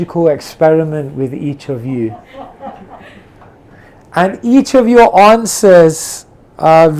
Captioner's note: audience member laughs